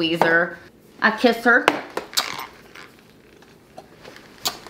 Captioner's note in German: schmatzt